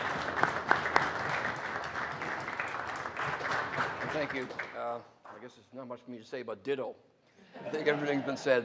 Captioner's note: applause